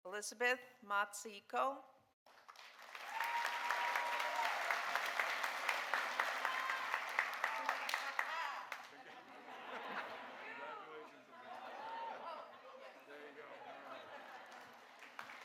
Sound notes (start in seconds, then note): 2.2 audience applauding; 8.0 cheering; 8.8 audience laughing